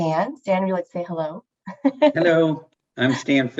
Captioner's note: laughs